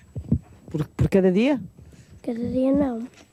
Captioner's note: speaking portugese